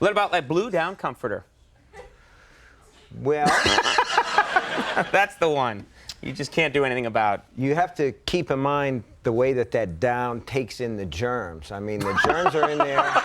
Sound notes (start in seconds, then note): 3.5 Conan and audience laughing